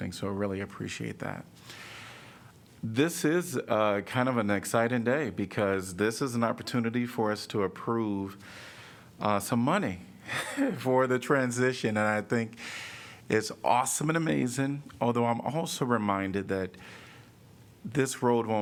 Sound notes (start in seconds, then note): 10.3 laughter